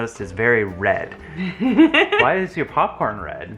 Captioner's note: laughs